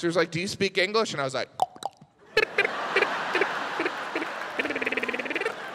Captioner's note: clicks tongue